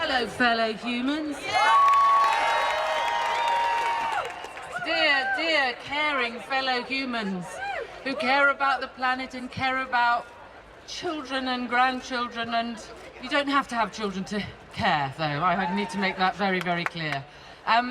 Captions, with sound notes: - Hello, fellow humans. [crowd cheering] Dear, dear, caring fellow humans, who care about the planet and care about children and grandchildren and... You don't have to have children to care, though. I need to make that very, very clear.